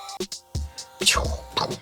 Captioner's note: inaccurate ninja attack sounds